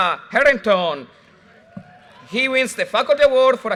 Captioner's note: audience cheers and applause